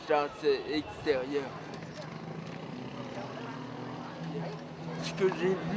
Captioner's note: street noises